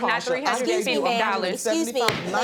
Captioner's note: judge faith bangs gavel